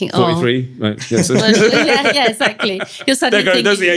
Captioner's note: laughter